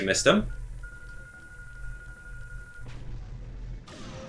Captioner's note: rapid ticking